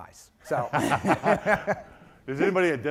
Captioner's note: laughing